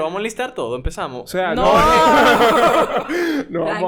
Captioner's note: laughs